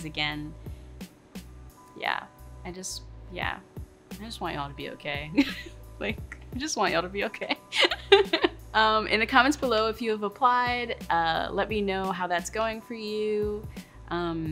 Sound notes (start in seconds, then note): 7.7 laughing